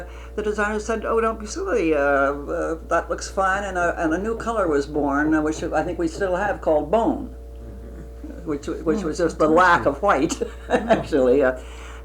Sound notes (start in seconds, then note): 7.6 laughs